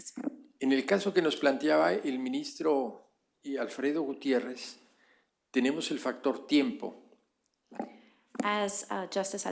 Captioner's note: speaking spanish